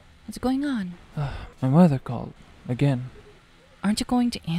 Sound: sigh

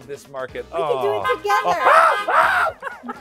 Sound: horn honks

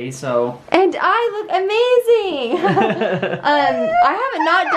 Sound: laughter

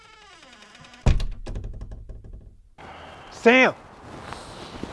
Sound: door cringing

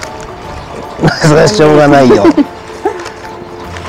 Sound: laughs

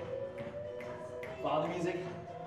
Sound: snapping

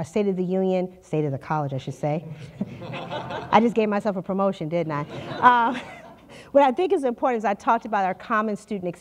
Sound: laughter

